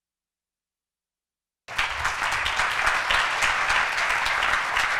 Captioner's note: applause